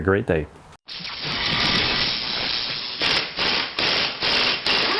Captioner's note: drilling sounds